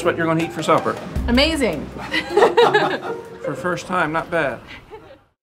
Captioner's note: laughs